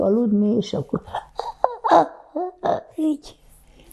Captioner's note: gasping